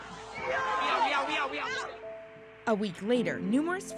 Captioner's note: shouting